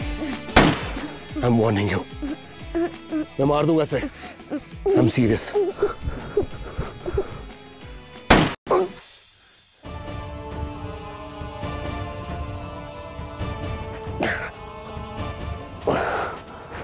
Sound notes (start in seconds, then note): 0.5 Gunshot; 3.9 Girl crying; 8.2 Gunshot; 14.1 Chief grunts